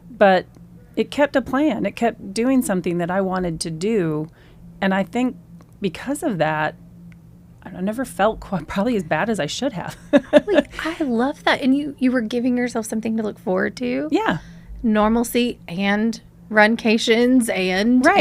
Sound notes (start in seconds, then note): 9.8 laughs